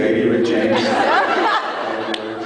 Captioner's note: laughs